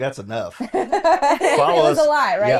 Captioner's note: all laughing